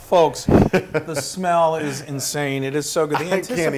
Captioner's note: laugh